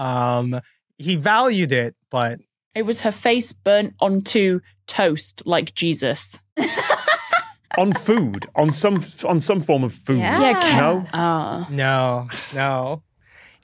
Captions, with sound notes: He valued it, but... It was her face burnt onto toast, like Jesus. (laughs heartily) On food, on some form of food. Yeah. No? No, no.